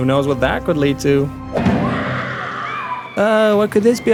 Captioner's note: screaming as if somebody died